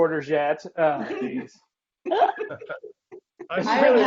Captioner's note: laughing